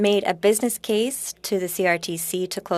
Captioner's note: speaking French